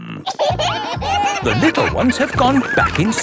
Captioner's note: kids giggling